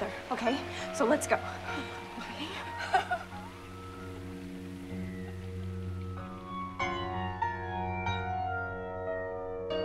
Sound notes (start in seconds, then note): 1.7 laughing; 3.0 unsettling music